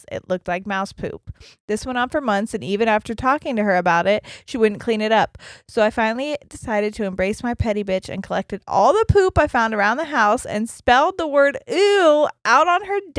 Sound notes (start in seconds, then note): none